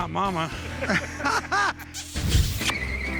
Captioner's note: all laugh